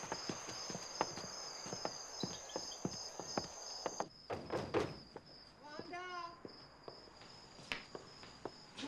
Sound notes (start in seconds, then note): 5.1 soft knocking on door